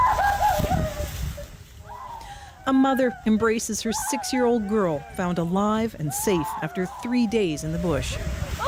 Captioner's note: crying